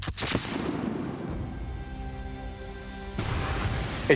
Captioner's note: gunshot; gunpowder igniting